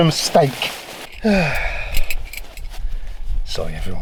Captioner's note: sighs